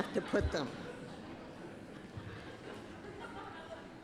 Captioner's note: laughter